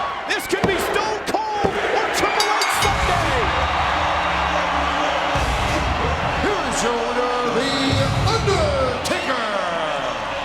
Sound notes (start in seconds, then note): 2.2 bell dinging; 4.4 crowd cheering; 5.3 upbeat music